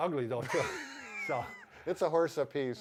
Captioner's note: both laughing